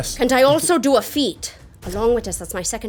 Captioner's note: none